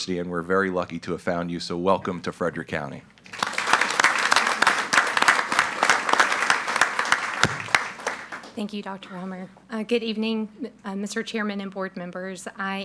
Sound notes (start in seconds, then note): 3.3 audience applauds